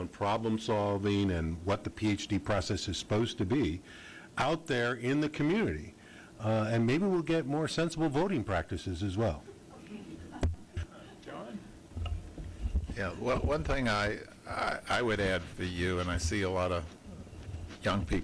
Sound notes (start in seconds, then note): 9.4 laughter